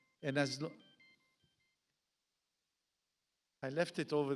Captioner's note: phone beeps